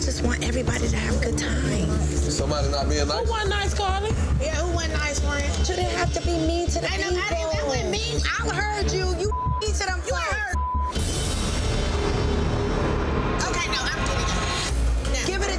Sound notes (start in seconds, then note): 10.2 beep; 11.4 dramatic music